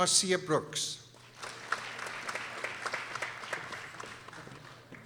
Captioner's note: people applauding